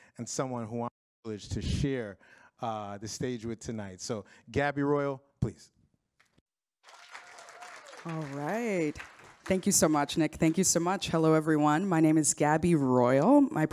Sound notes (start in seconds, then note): 6.8 audience claps